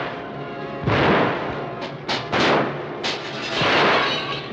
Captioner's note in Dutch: glas breekt